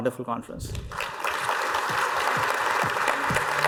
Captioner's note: applause